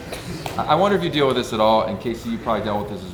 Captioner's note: group laughs